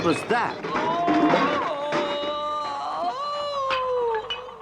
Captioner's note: Toad yells